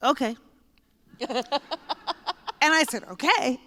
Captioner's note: laughter